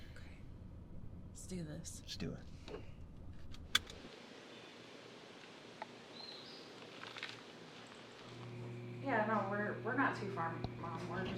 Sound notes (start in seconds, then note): 4.5 birds chirp; 4.5 water rushes in distance